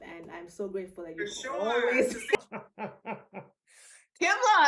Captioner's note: laughs